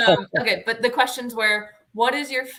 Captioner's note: laughter